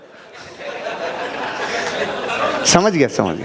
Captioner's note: laughing